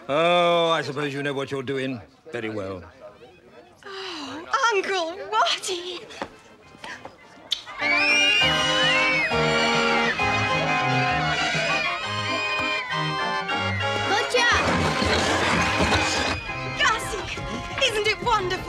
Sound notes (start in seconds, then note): 7.7 screaming